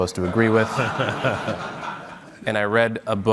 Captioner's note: audience laughing